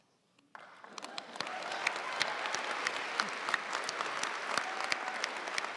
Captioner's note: audience cheering and applauding